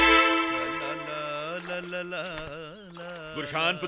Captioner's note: humming